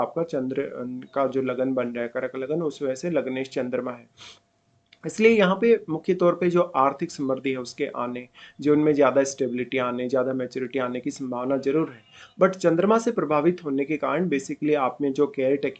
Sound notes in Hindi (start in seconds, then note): 4.9 नाक से की जाने वाली आवाज़